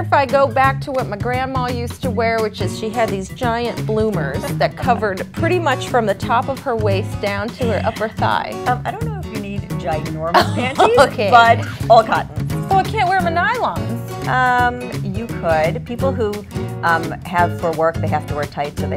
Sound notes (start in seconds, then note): 10.3 laughs